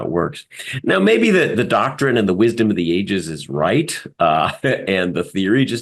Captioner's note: laugh